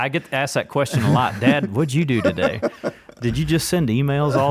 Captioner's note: laughs